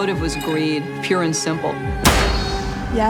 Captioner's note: gunshot